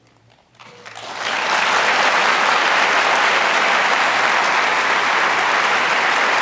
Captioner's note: audience applauding